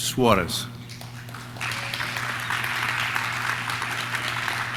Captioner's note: audience claps